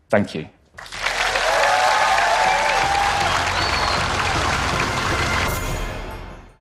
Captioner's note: applause